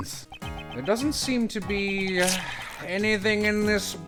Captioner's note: squelching